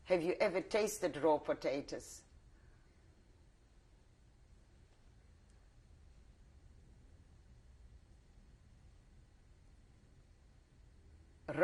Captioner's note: pauses for 10 seconds